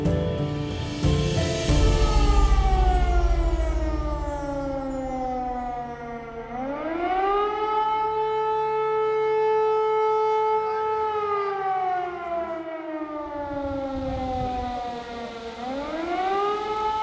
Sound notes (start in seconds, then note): 1.2 air alarm sound